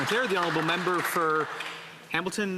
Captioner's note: some Applause